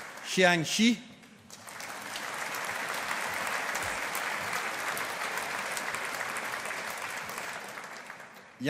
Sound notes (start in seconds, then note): 1.3 audience applauding